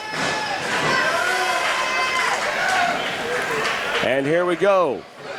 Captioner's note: crowd murmurs